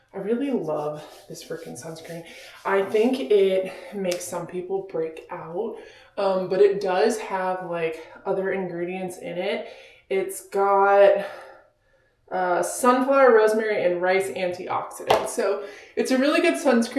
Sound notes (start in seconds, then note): none